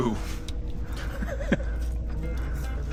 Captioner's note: laughs; upbeat music